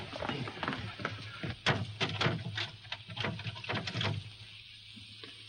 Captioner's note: lock rattles